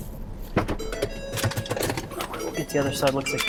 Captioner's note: car beeping